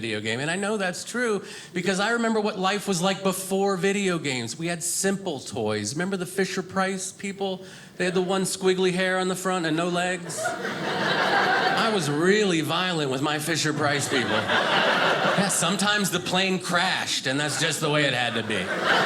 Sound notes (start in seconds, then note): 10.2 audience laughing